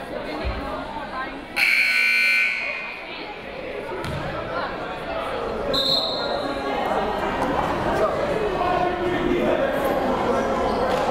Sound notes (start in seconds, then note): 2.2 timer buzzes; 8.1 crowd murmuring